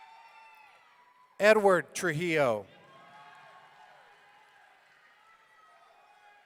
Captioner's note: audience cheering